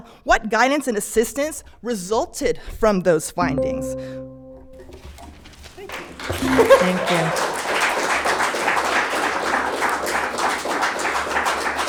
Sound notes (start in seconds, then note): 3.4 PA system beeping; 8.6 spectators applauding